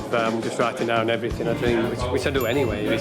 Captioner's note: ding